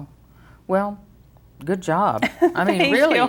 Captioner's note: laughing